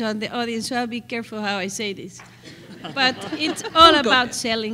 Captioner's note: laughter